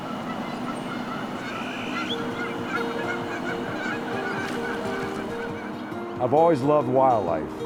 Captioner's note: geese quacking